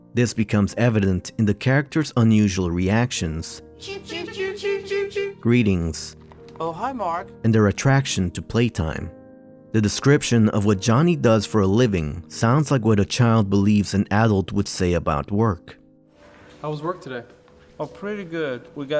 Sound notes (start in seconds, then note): 3.9 chicken sounds